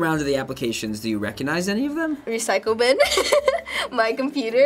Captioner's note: laughing